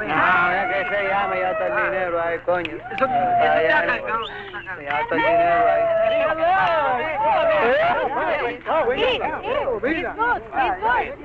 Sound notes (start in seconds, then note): 0.3 men speaking in Spanish; 6.8 people chattering